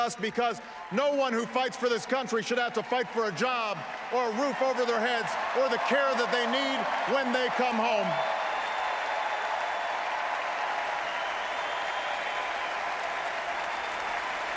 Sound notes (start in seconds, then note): 12.5 applause